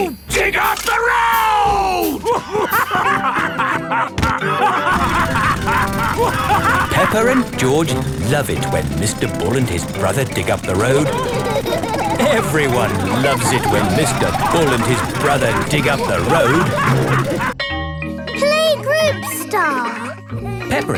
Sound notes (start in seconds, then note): 3.1 both laughing; 6.5 drilling; 12.1 laughing; 17.1 all laughing